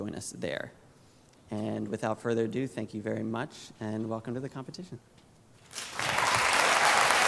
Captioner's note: applause